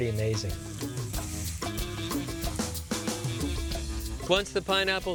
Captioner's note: sizzling